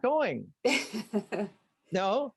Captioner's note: laughs